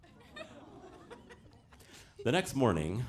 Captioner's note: audience laughing